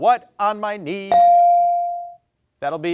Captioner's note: bell dings